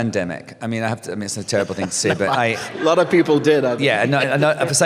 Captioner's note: laughs